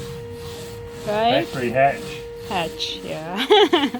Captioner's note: laughs